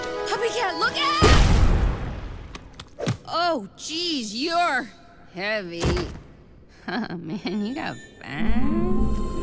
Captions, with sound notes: PuppyCat, LOOK OUT! (loud burst) Oh geez, you’re... heavy. (chuckles) Oh man, you got fat.